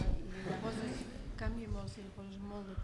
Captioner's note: speaking spanish